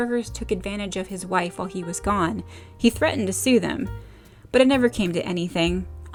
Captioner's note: none